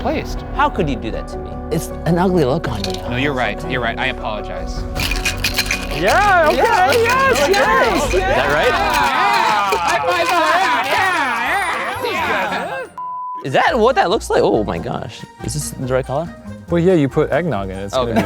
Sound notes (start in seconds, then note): 9.9 everyone cheering; 12.9 beep